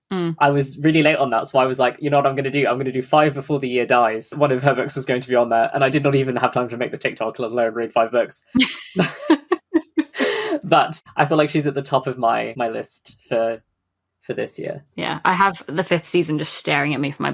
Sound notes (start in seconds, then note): 8.6 laughing; 8.6 laughs